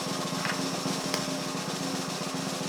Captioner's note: egg cracking